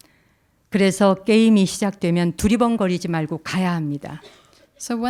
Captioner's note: speaking in Korean